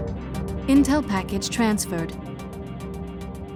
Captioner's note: voiceover